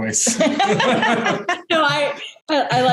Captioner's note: laughter